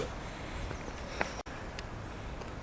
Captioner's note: sigh